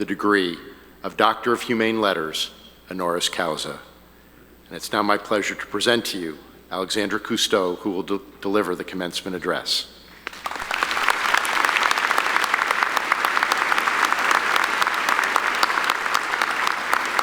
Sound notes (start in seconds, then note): 10.1 audience applauding